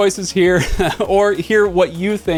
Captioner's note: chuckles